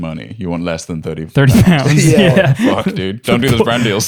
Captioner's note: laughs